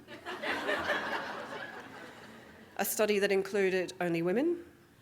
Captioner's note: audience Laughing